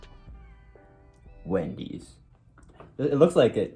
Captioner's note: Dramatic voice